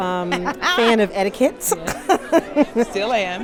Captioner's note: laughter